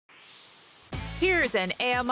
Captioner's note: swoosh